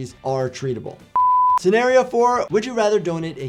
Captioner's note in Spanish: pitido de pantalla